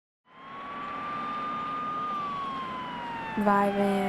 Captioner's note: ambulance siren blaring